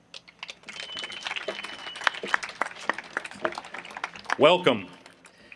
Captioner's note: audience applauding